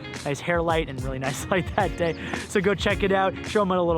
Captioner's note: laughs